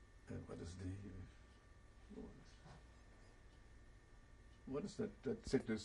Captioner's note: pauses for 3 seconds; pauses for 3 seconds